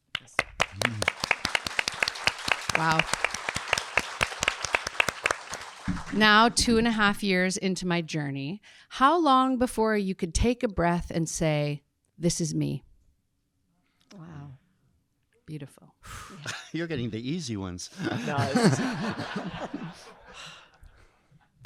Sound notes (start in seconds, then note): 0.0 audience clapping; 3.6 audience clapping continues; 16.1 exhaling; 17.9 audience laughing